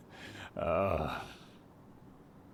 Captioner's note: Kyle laughing